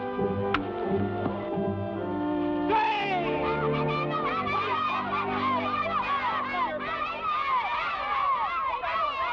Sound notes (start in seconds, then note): 3.6 boys shout